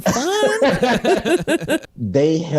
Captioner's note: everyone Laughs